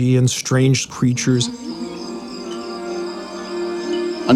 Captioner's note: insects chirping